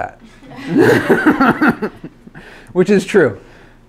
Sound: laughs loudly

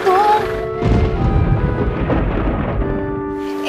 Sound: thunder claps

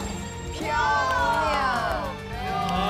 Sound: all cheering

